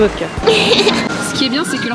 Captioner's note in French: rire niais